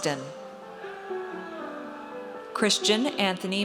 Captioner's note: audience cheers